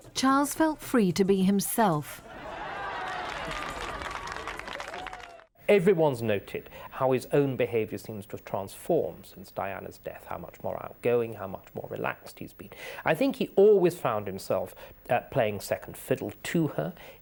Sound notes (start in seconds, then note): 2.4 crowd clapping